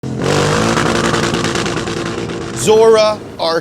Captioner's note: engine revving